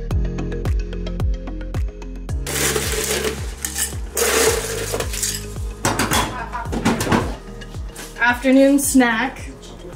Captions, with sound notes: (ice crackling) - Afternoon snack.